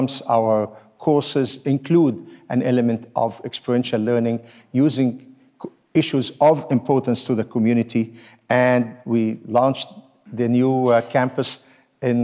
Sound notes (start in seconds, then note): none